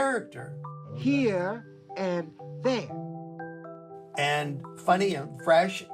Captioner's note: soundbite of tv show, "sesame street"